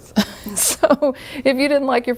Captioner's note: laughing